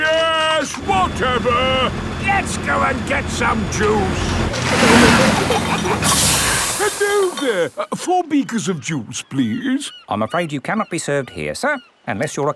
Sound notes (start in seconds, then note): 4.0 peppa and george giggling; 4.9 air hisses